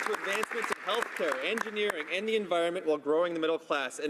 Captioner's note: some Applause